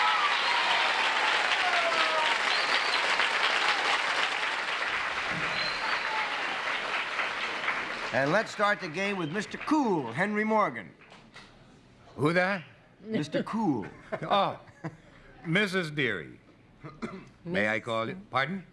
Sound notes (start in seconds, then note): 2.5 applause